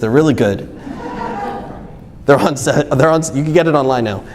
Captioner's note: audience laughs